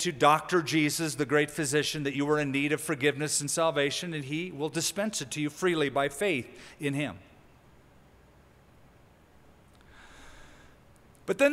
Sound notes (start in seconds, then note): none